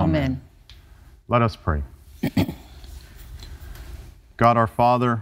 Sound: clears throat

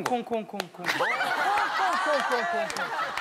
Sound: laughing

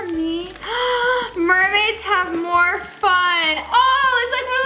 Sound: gasps

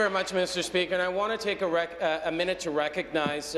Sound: applause

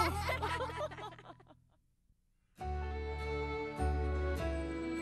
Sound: laughing

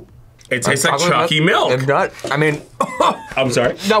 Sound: coughs

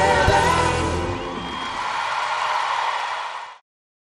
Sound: applause

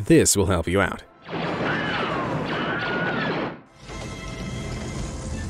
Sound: bright zapping; dramatic music

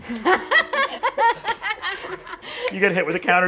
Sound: laughing

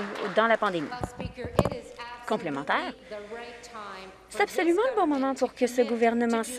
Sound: some Applause

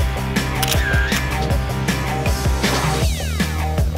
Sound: camera clicks

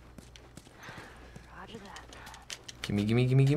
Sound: Ellie sighs

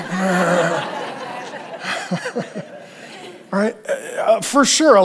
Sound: congregation laughing

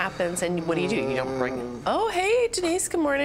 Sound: moaning

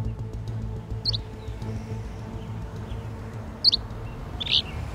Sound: birds chirping

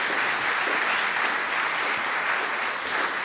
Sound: applause

